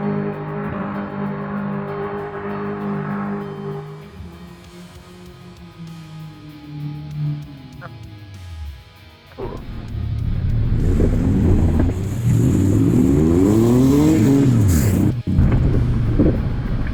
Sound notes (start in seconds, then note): 0.0 sounds like a snowmobile hillclimb competition; 6.1 engine revving; 9.3 grunting